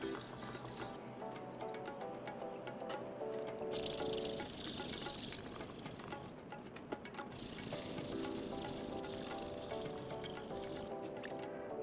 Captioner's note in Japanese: 刃先を研ぐ音